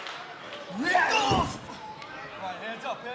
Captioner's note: wrestlers shouting